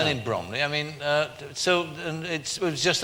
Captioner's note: stutters